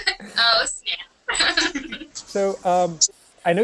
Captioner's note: laughter